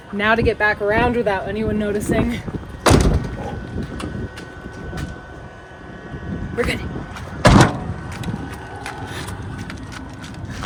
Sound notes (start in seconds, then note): 2.8 door clattering; 7.4 door clattering